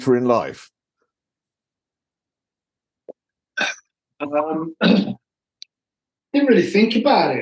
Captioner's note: coughing